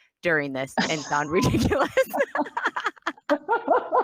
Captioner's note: laughs